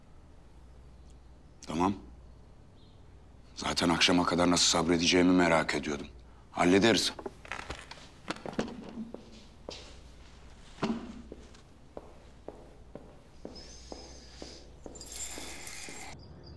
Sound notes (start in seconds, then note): 8.3 chair push tone; 11.5 footsteps; 14.9 bead curtain door sound